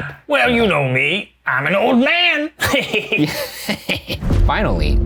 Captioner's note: laughs